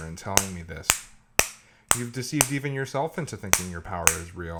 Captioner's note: tapping sound of hammer